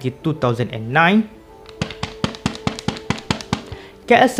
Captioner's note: tap-tap